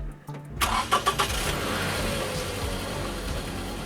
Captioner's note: car engine on